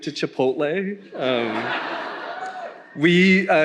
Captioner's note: attendees laughing